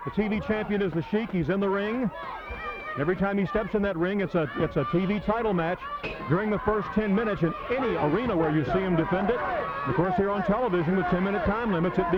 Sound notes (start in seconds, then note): 6.0 bell ringing